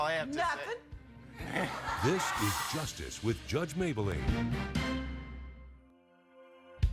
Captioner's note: audience laughs